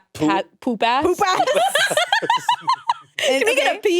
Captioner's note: all laughing